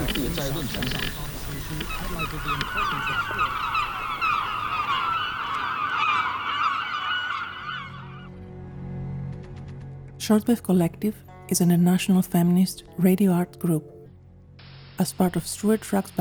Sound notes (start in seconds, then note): 0.0 strange underwater sounds, mixed with radio voices; 0.0 seagulls fade in, a mouthy flock